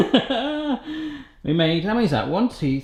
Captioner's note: laughs